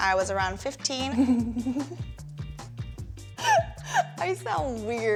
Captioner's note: laughing